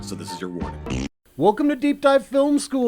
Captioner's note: fart